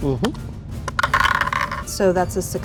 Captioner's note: die rattling